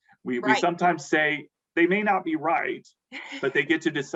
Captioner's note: laughs